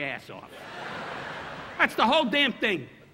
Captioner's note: audience laughing